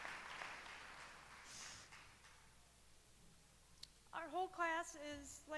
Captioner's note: applause